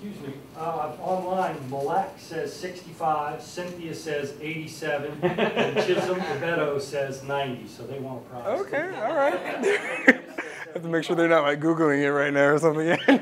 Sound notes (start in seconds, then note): 5.2 laugh; 8.8 laugh